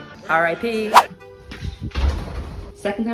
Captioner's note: whoosh